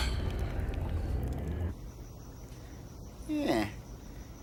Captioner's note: sighs